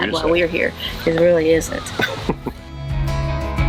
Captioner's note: laughs; upbeat music